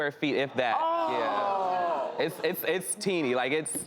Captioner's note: audience exclaiming